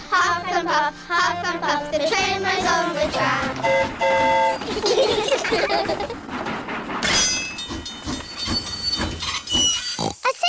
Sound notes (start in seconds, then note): 3.3 train horn toots; 4.6 all giggle; 7.8 tinging